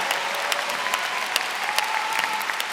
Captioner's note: applause